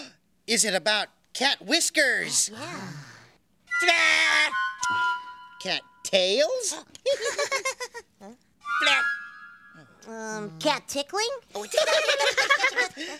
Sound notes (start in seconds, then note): 7.1 all giggling